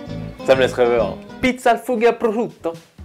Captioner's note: Italian